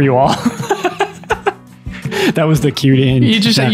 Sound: Father Innocent laughs

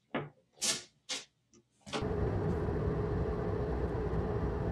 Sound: car engine rumbling

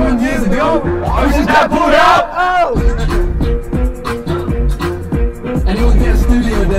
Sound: shouting

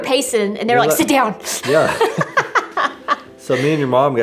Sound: both laugh

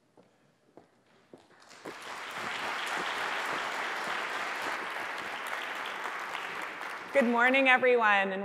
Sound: applause

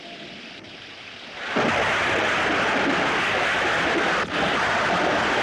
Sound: thunder Rumbling

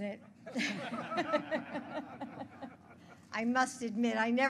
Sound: laughter

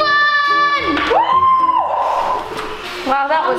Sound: mom cheers

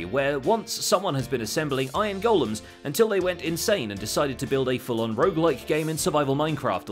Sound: none

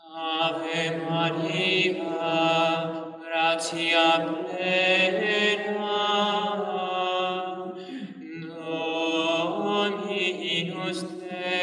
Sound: chant

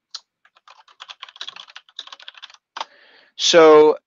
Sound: keyboard clicking

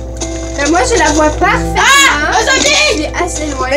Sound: screams in fear

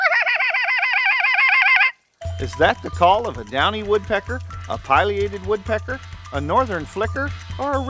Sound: wildlife call

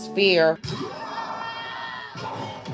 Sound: punching, bickering; Monster roars, Oodle screams

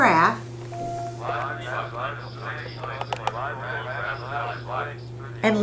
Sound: calculator Sounds

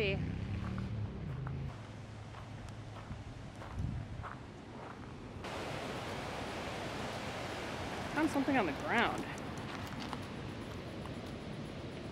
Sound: water flowing sounds

